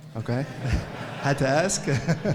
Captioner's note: audience laughs